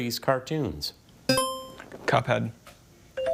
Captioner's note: tone chimes; buzzer chimes